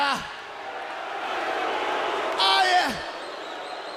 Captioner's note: crowd cheering